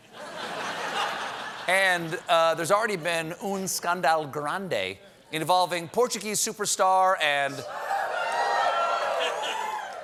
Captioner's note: laughter